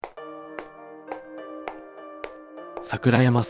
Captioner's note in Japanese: ヒールの靴で歩く音